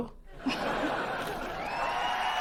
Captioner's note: audience: laugh track; audience: applause